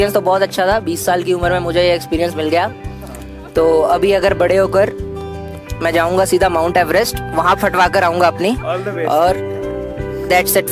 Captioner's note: laugh